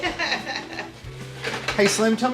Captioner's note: laughter